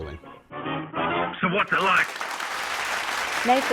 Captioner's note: applause